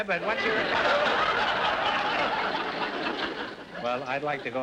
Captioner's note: audience laughter